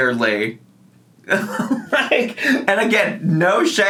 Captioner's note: laughing